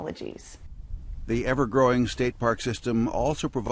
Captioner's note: voiceover